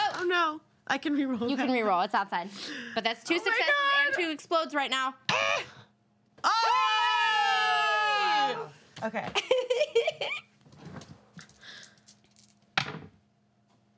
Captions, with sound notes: Oh no, I can re-roll that. - You can re-roll, it's outside. But that's two successes and two explodes right now. (all cheering) - Okay.